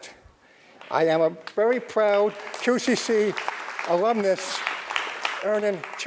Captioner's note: crowd applauding